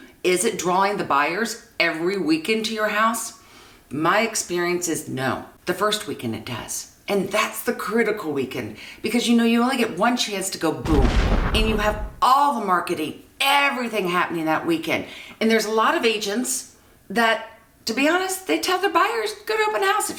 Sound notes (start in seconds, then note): 10.8 explosion